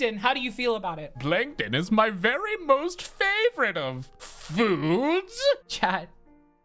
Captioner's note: SpongeBob Plankton voice